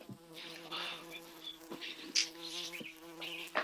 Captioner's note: buzzing continues